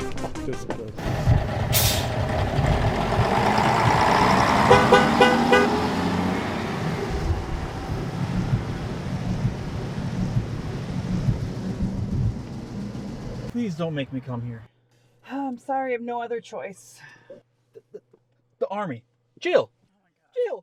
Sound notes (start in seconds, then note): 1.5 bus running; 3.3 horn honking